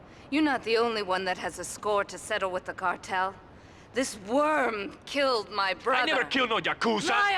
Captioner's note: none